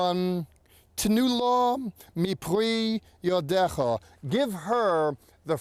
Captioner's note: speaking in Hebrew